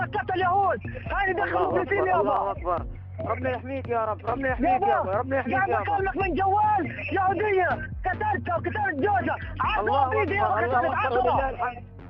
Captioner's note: speaking alternate language